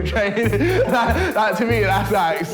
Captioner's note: laughs